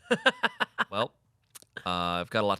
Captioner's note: laughs